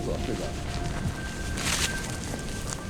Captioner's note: dry grass crackling